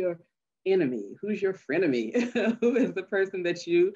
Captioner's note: chuckles